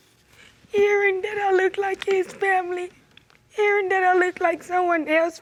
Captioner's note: tearfully